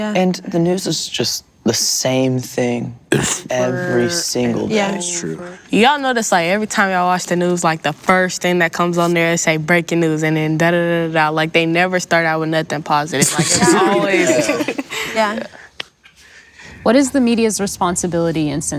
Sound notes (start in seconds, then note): 13.2 laughs